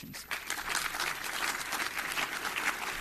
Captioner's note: applause